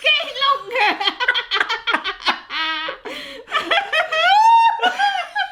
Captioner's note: laughing hysterically